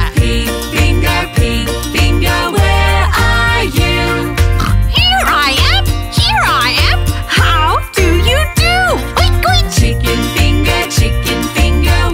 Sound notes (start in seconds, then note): 4.6 pig grunting